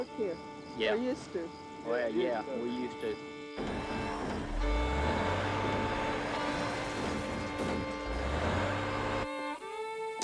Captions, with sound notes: - Y'all work here? - Yeah. - Or used to. - Well, yeah, we used to. (engine revving)